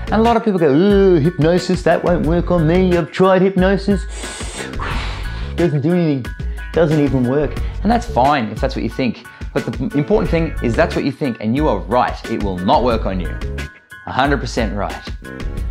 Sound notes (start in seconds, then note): 4.0 inhaling and exhaling